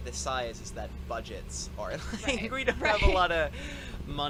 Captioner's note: laughs